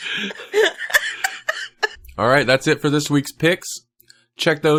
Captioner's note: laughing